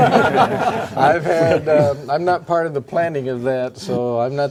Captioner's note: laughing